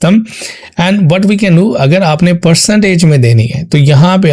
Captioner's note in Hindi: नाक से की जाने वाली आवाज़